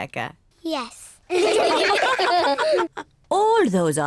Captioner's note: all laugh